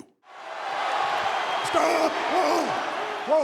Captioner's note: crowd cheers